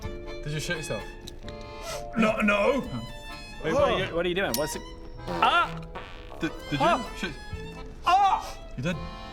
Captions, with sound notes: did you shit yourself? *sniff* N...no What're you...what you doing? *pffft* oh did you did you shit? oh! you did